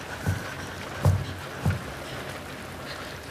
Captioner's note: breathing deeply